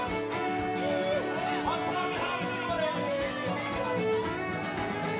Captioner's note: patrons cheering